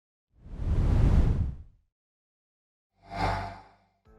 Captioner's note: air whooshing